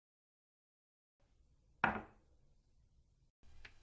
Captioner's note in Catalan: cop de tassa